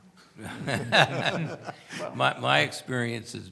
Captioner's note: laughs